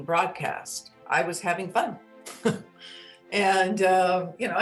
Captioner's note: laughs